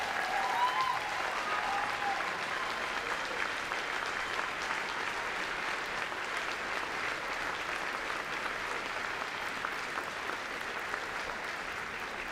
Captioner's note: cheering and Applause